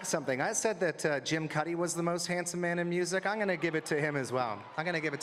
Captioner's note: applause